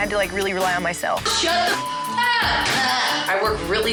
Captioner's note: laughs